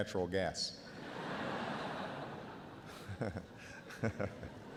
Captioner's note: audience laughs